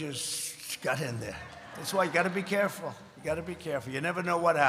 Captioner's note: laughter